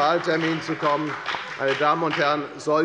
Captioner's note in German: Beifall bei der FDP und der SPD